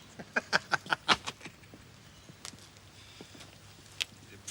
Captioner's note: laughs